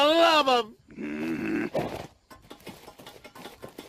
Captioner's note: growls